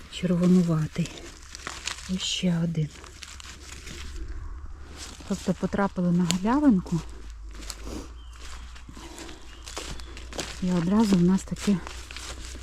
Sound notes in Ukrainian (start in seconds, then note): 7.7 сопіння